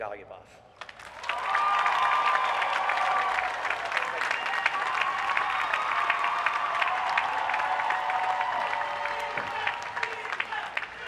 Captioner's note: applause